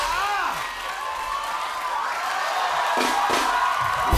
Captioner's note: cheers and applause